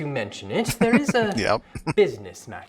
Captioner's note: chuckling